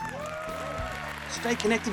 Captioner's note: crowd cheering